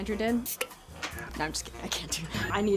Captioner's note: bottle pops